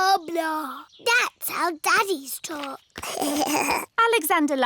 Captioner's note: alexander giggles